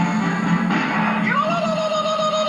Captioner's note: bang